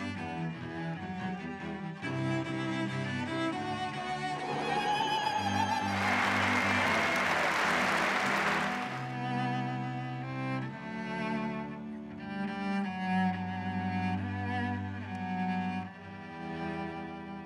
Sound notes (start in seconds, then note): 4.1 cheering; 6.3 applause